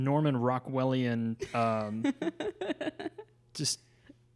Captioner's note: laughs